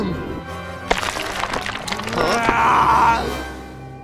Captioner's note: applause